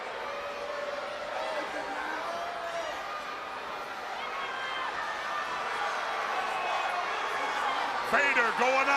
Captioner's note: crowd cheering